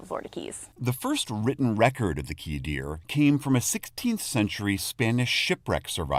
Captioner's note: voice-over